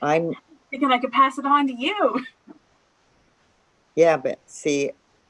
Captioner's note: chuckles